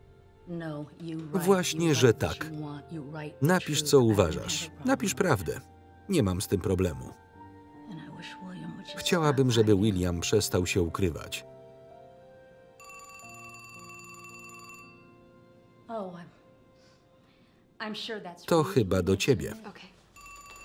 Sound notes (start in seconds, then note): 12.8 phone ringing